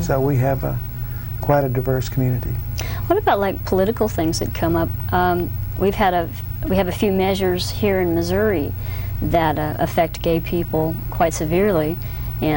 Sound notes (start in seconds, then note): none